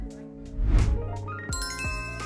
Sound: screen whooshes; bell chimes

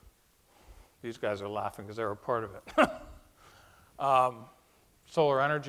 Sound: laughs

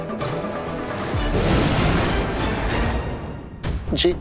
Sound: whooshing sound

